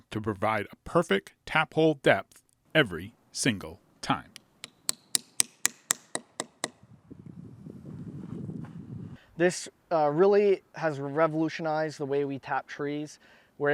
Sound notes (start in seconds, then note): 4.6 hammer thudding